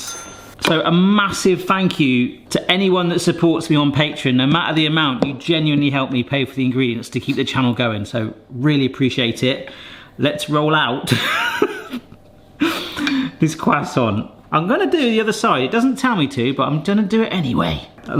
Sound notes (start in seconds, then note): 11.1 chuckles